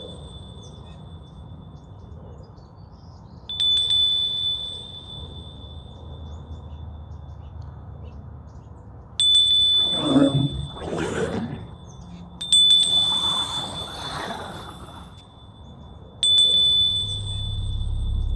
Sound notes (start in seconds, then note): 3.4 bell jingling; 9.8 bell jingles; 9.9 monster groaning; 12.4 bell jingles; 13.0 creature snarling; 16.3 bell jingles